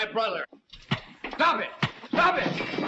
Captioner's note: blows thudding